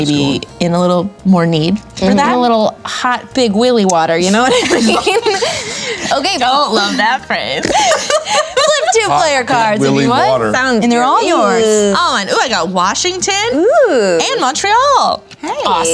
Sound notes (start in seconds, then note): 4.2 laughing